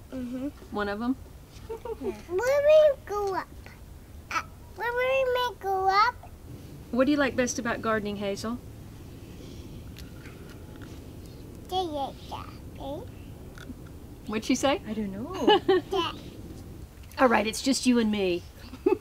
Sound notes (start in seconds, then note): 11.3 she mutters something